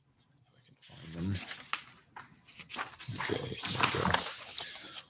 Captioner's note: papers rustling